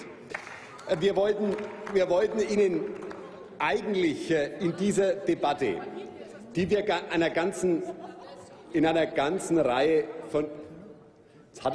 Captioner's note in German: Applaus